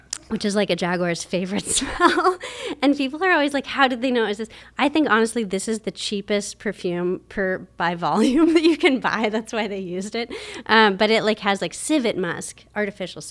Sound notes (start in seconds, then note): 1.5 laughs; 8.2 laughs